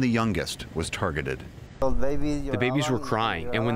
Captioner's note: through translator